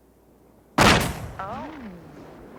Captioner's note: gunshots booming